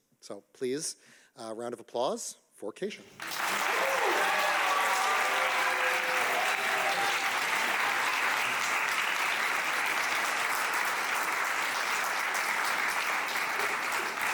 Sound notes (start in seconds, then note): 4.0 audience applauding